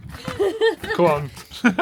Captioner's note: laughing